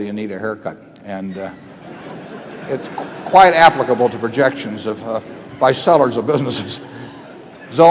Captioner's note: laughter